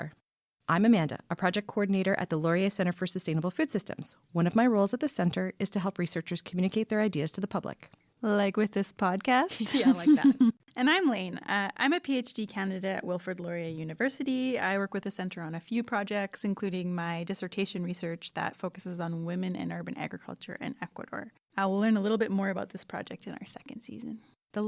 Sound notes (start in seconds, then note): 9.5 laughs